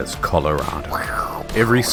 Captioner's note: tsunami noises